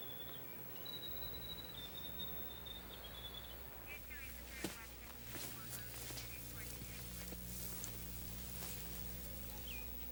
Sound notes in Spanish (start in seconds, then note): 1.7 rádio da polícia falando